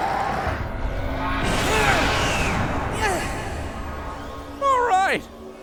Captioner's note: sounds of a power up